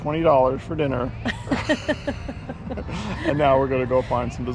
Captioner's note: chuckling